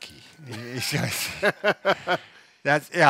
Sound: laughs

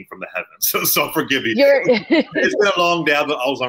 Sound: laughing

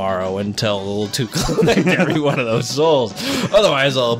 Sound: both start laughing

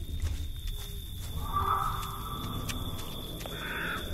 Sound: animals chattering

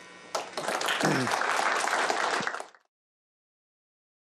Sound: applause

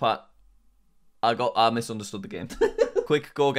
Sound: laughs

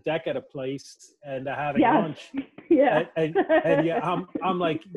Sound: laughs

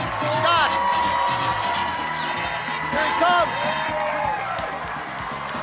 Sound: cheers and applause

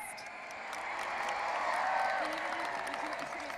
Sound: audience applauding and cheering

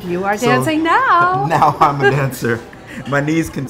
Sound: laughing

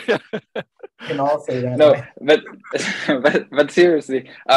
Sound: panel attendees chuckling

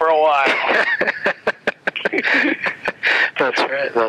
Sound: both laugh

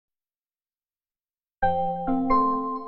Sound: silence

